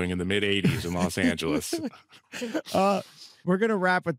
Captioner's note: both chuckle